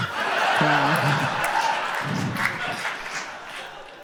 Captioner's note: audience laughs